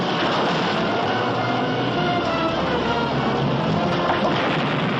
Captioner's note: explosion